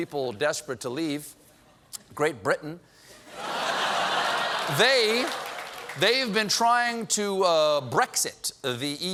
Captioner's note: laughter